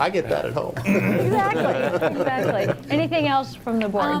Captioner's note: group laughing